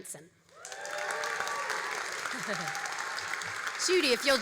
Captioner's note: all applauding and cheering